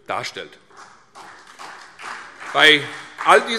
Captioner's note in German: Beifall CDU